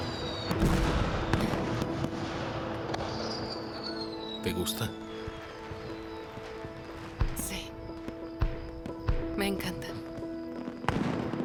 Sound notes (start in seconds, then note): 0.1 slow orchestral music; 3.3 fireworks popping